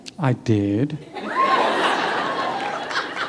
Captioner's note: laughter